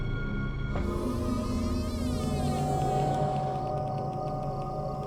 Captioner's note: door creaking